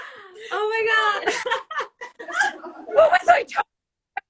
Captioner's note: laughs